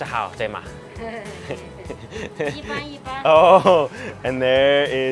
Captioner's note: laughing